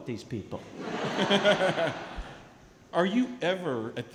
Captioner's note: laughing